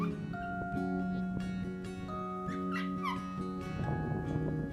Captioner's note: dog yelping